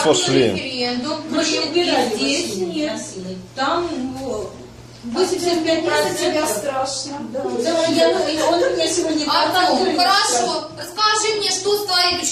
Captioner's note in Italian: in coro